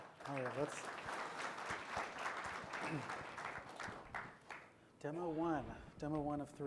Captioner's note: applause